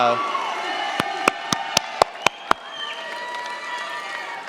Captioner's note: cheers, applause